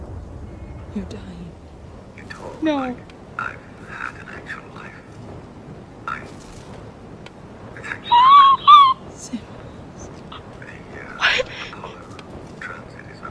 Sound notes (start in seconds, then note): 2.5 makes the noise of a dying animal